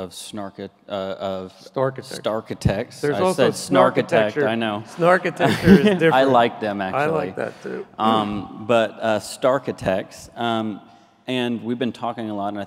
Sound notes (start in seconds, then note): 5.1 laughs nervously